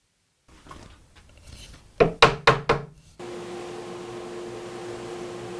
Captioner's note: gentle hammer taps